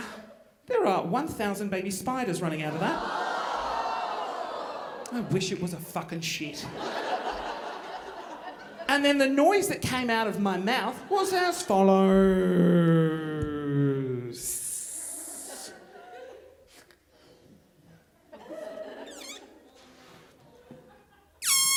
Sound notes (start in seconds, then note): 3.1 audience groaning; 6.6 audience laughing; 18.2 audience laughing; 21.4 balloon squealing